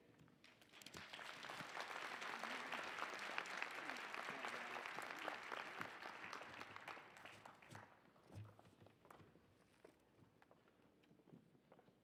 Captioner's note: applause